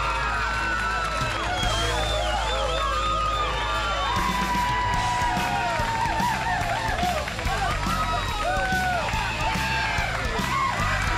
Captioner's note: crowd cheering